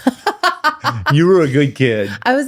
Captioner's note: laughs